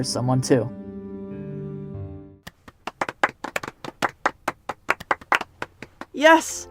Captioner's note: mild applause